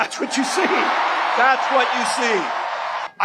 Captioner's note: crowd cheers, applause